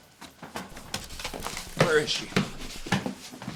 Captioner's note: door rattling; footsteps thumping